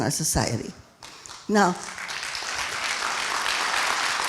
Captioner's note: applauding